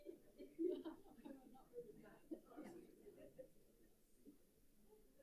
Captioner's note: group members chattering